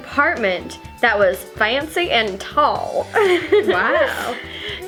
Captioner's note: laughs